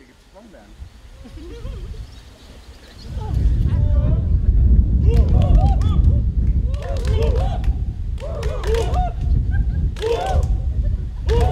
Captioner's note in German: Gejohle; Jubel; rhythmisches Huh-huh-Huh